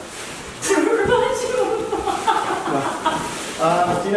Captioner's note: laughing